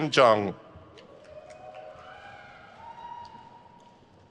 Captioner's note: crowd cheers